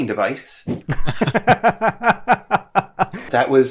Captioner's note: laughter